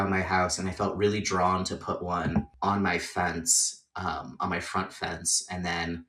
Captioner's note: jar clinks